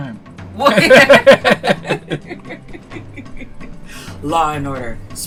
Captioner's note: incredulous laughter